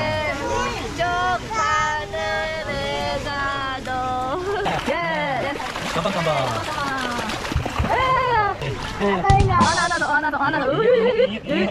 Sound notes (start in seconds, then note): 0.0 singing; 4.1 splashing